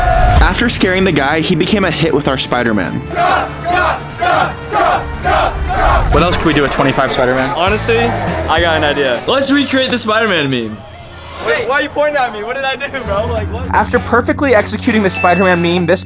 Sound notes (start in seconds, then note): 3.1 cheering